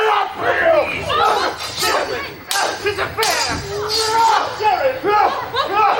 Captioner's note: swords clash